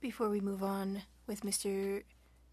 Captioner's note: speaking French